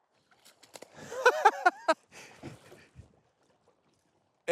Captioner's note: chuckles